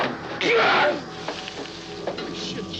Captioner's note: Sam screams